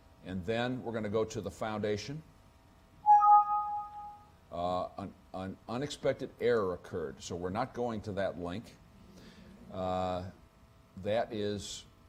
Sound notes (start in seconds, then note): 3.1 computer dings